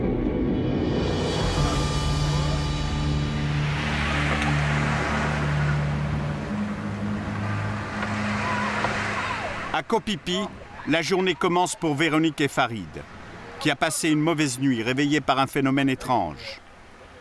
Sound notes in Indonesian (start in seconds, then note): 3.9 suara ombak